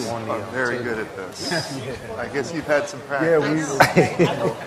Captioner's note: laughter